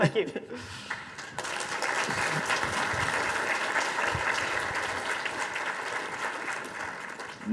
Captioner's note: audience applause